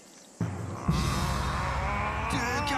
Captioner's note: growls